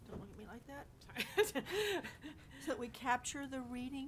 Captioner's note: board member laughs